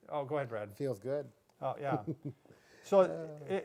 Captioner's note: chuckling